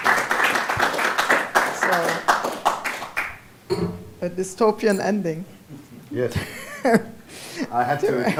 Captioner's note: applause